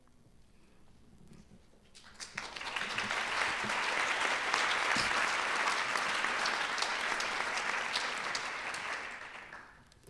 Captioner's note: applause